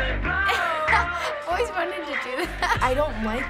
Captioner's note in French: rires